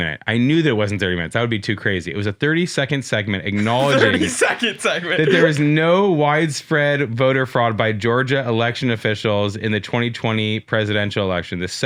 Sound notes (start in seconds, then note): 3.5 laughs